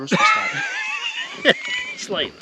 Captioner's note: laughing